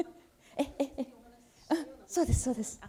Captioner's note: speaking japanese